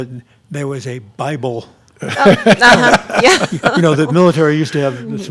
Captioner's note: laughing